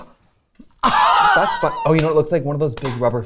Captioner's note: laughing